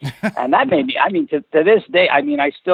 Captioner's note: laughs